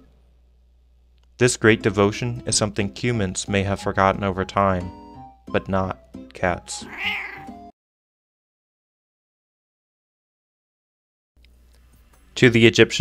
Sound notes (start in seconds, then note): 8.3 meow sound